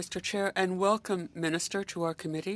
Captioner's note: speaking French